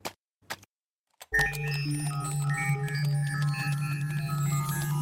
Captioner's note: buttons beeping